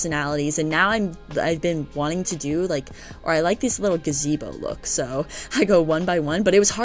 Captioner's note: stutter